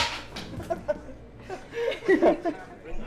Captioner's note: giggling at the table